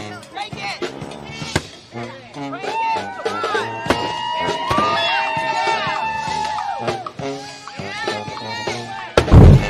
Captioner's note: cheering and applause